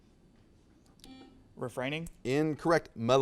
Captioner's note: buzzer sounds